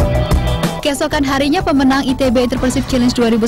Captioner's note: non-english speech